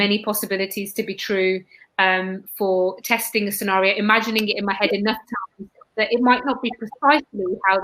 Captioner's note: erm